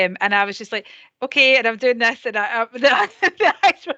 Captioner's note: laughs